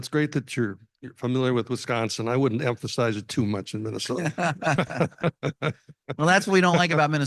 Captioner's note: laughs